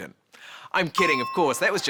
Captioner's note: bell chimes